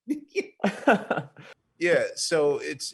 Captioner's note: chuckling